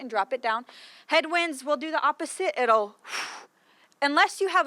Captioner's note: makes whooshing